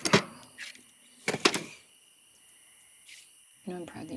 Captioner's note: night sounds